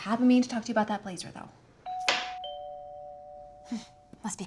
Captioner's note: doorbell rings